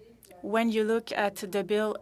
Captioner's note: speaking French